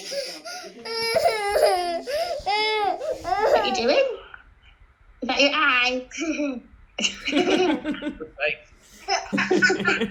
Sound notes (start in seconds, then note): 0.8 cries; 7.0 laughing